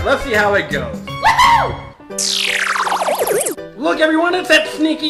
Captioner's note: cheering